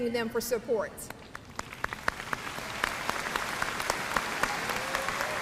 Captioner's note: graduates applauding